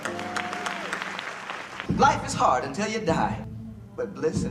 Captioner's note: crowd repeat